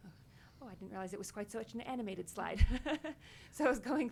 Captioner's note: chuckles